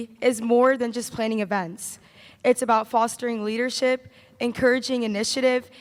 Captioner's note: none